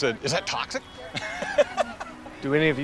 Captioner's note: all laughing